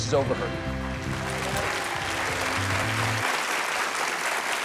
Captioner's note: audience clapping